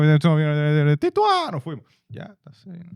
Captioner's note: speaking In Foreign Language